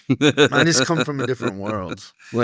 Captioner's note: laughing